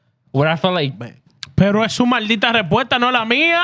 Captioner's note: speaking Foreign Language